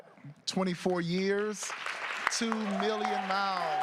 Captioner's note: applause